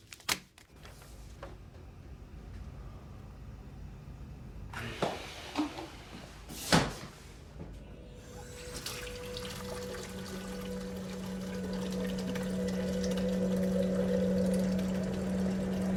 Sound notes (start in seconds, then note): 8.2 dramatic orchestral music; 8.2 water running